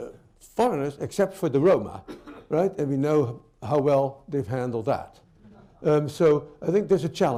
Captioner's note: laughter